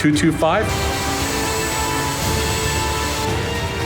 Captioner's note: engine humming